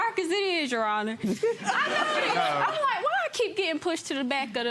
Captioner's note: all laughing